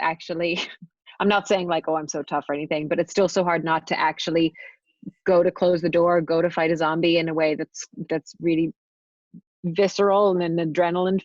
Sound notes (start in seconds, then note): none